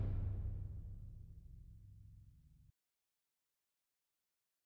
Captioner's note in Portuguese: sem áudio; sem áudio